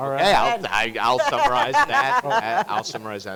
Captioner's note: laughing